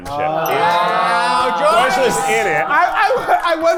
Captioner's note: people cheering